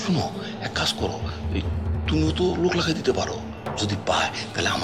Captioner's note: none